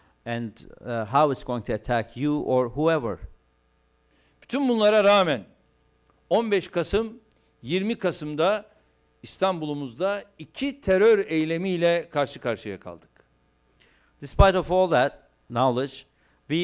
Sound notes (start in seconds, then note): 5.7 non-english speech